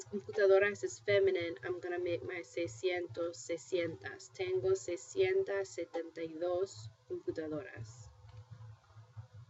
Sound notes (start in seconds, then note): 2.6 spanish; 3.8 speaking spanish